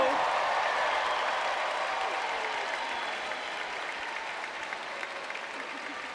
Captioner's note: cheering